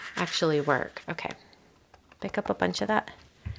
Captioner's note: roll tapping